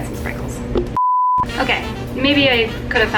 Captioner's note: TV beeps